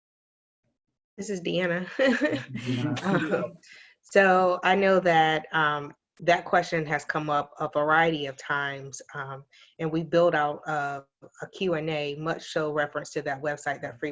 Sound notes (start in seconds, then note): 2.1 laughing